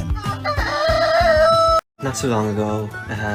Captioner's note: rooster crows